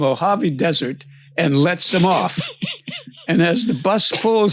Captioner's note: laughs